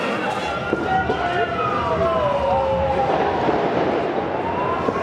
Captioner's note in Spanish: Sirenas